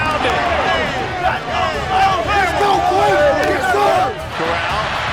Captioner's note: cheering